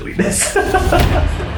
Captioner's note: laughing